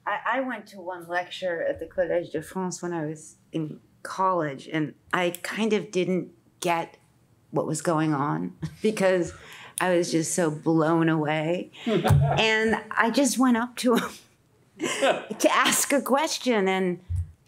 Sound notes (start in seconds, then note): 11.8 laughs; 14.9 scoffs